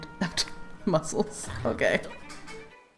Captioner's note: laughs